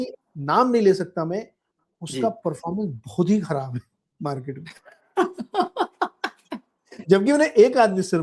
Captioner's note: laughter